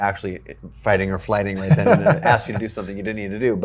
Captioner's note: laughing